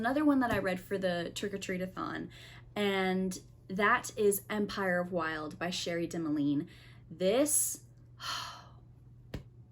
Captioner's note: sigh